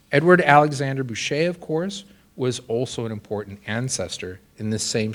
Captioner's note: none